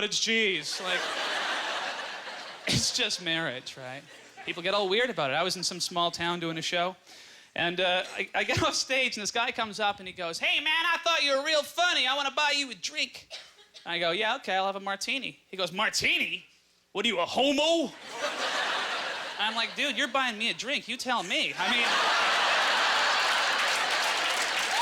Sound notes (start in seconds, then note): 0.7 audience laughter; 18.0 audience laughter